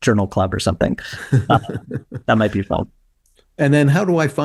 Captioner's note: laughing